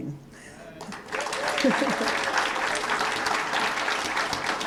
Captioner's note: applause